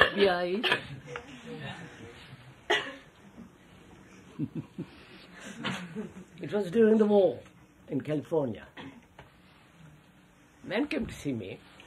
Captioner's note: laughs